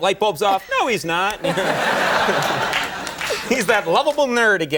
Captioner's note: audience laughing